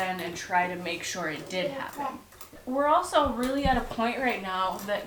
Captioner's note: none